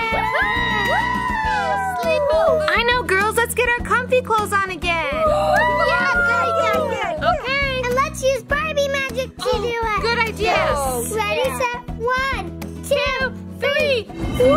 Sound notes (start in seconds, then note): 0.0 all cheer; 5.1 all cheer; 14.3 magical whoosh